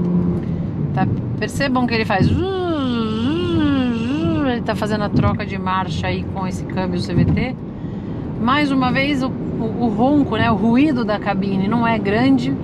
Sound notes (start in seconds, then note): 2.2 noise imitation